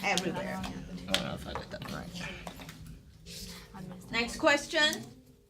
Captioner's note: students murmur